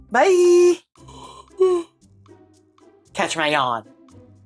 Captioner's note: yawning